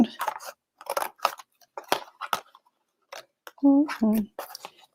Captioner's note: scissors snipping